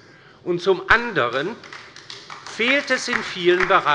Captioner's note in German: Beifall bei der LINKEN